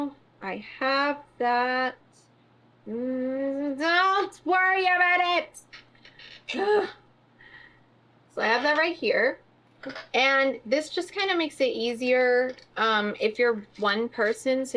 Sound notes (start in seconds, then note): 6.3 groans